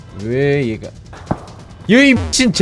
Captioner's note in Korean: 탕탕탕